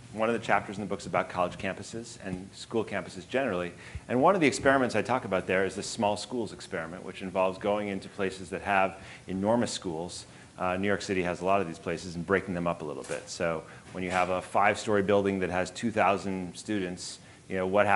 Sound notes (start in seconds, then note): none